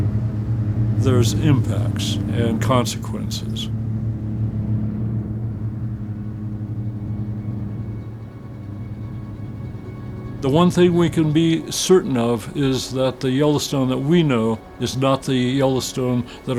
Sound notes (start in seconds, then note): 4.2 motors roaring; 4.2 somber music